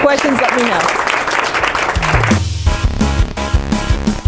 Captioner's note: applauding; exciting music